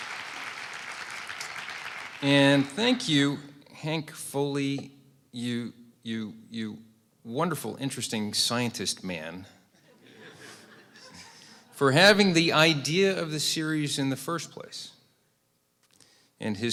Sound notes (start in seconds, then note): 0.0 applause; 9.8 laughter